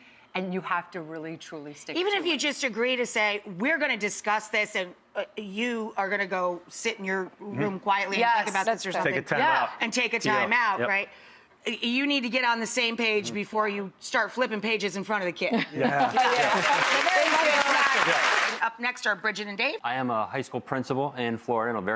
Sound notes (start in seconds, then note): 15.5 laughter; 16.0 applause